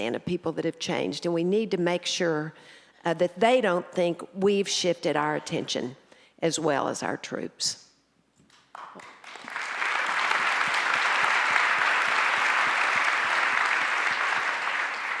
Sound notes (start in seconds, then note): 8.6 audience applauds